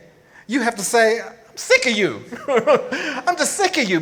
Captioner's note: laughs